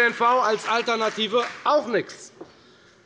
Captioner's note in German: Beifall bei der FDP